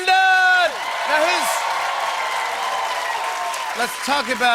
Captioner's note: cheers and applause